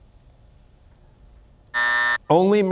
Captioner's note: buzzer